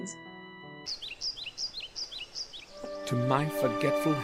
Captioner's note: birds singing